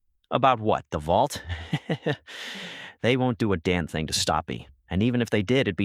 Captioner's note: laughs